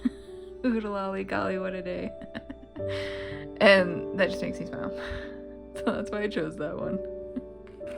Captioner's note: laugh